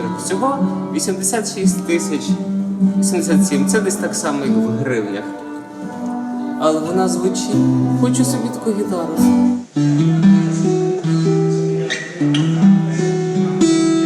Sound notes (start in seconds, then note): 8.8 guitar sound; 10.3 man talks in Czech in the background